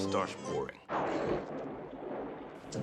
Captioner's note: thunderclap